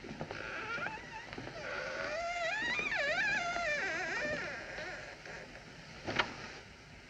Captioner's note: door Hinges Creaking